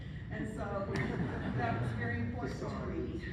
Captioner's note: laughing